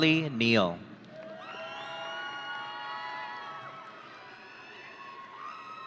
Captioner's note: audience cheering